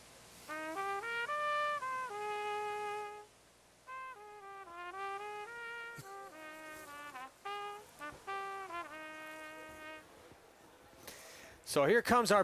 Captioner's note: horn blowing